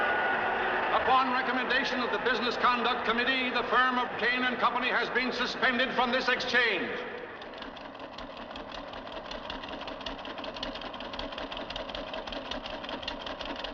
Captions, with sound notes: "Upon recommendation of the Business Conduct Committee, the firm of Cain and Company has been suspended from this exchange." [ Typing ]